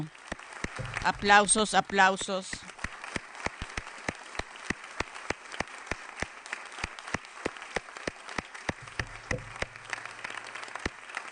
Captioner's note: applause